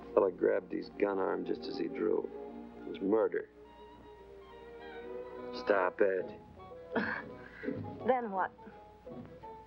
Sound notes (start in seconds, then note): 6.9 laughs